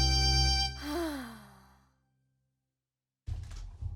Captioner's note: sighs